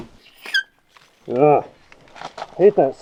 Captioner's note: tool scraping